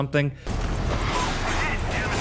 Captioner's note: gunshots banging; metal clanging